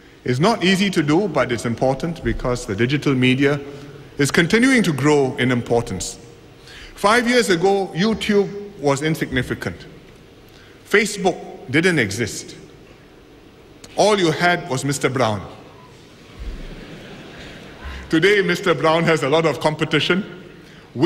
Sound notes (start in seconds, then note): 16.4 laughter